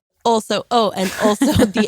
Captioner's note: laughs